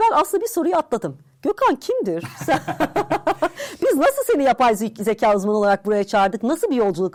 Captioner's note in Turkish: kahkaha